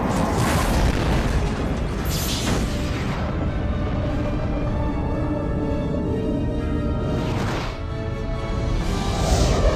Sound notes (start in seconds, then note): 2.1 explosion